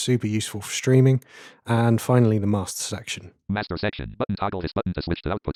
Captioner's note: automated voice